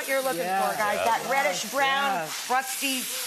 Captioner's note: people agreeing